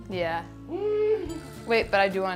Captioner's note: squeals gleefully